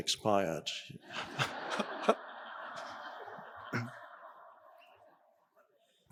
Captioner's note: audience and Eckhart laughing